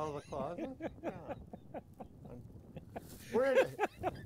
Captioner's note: laughing